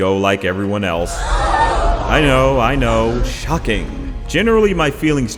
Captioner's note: sound clip of audience gasping